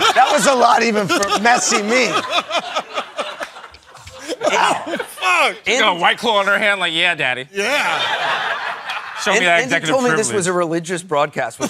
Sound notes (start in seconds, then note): 2.7 laughing